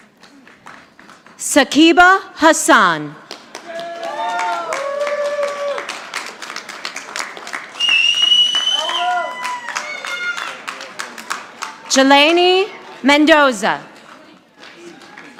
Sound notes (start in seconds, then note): 3.2 audience clapping